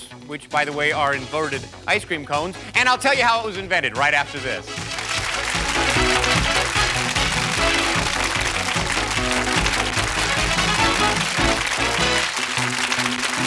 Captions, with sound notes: which by the way are inverted ice cream cones. And I'll tell you how it was invented right after this. (applause)